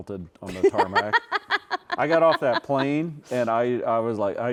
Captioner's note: laughing